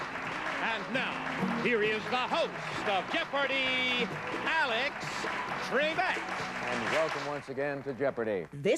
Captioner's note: applause